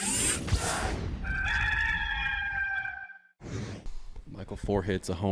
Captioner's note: rooster crowing